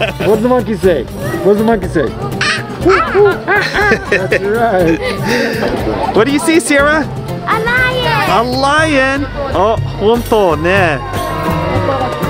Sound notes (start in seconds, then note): 2.4 imitates monkey